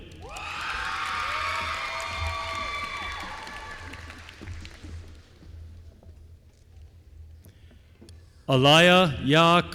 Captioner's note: applause